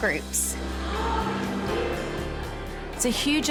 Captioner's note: all gasp